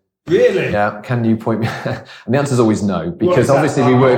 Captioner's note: laughs